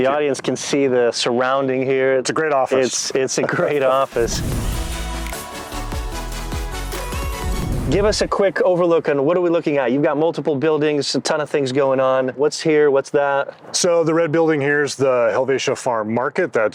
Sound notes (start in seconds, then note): 3.3 chuckles; 3.4 laughs; 3.5 upbeat music